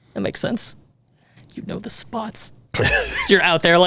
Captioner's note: laughs